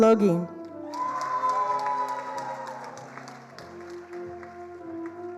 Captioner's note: attendees applauding